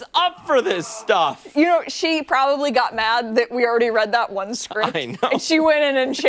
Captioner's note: laughter